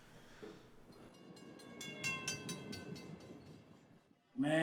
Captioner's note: train passing